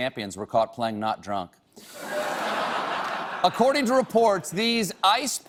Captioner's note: laughter